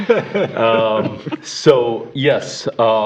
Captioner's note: laughter